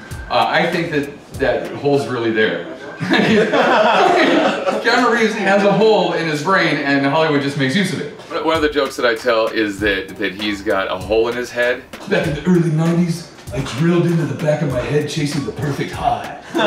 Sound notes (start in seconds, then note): 2.6 laughter